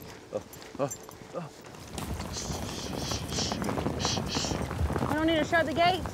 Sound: hoofbeats

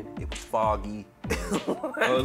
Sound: laughter

